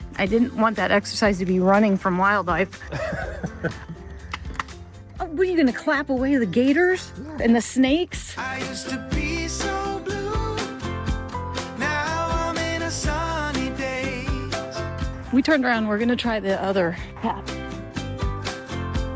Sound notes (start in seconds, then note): 2.8 laughs